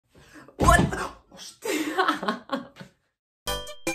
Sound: laughs

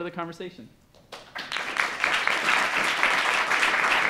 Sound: applause

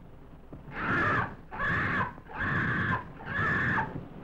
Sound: bird screeches

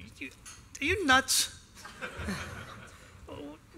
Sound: laughter

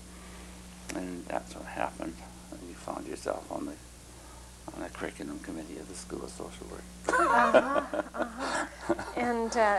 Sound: laughter

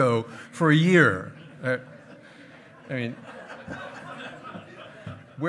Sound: hearty laughing

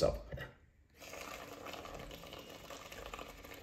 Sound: bubbling

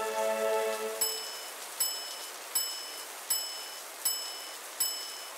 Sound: fanfare; ding ding ding ding

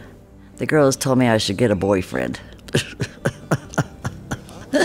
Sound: laughs

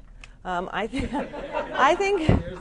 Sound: laughter

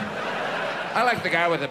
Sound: audience laughs

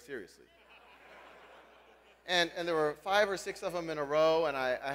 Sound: laugh

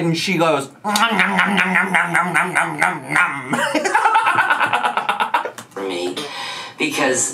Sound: laughs

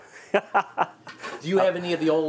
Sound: laughing

